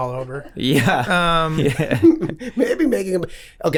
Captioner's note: laughs